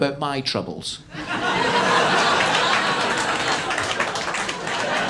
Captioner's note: audience laughing